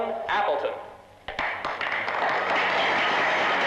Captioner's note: applause; light orchestral music plays